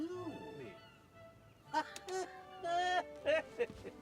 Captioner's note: laughing